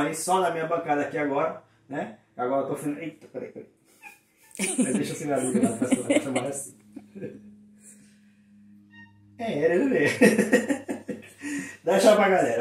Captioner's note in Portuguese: risos